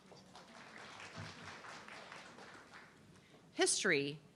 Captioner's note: audience clapping